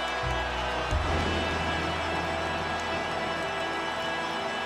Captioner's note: lightning roaring